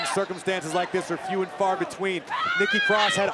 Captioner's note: wrestlers yell